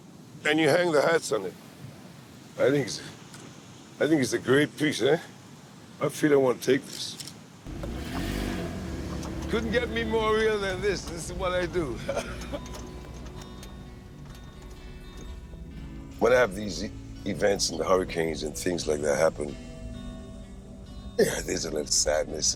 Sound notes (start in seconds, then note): 14.4 laughs